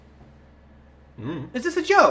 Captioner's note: Joel grunting 'I don't know'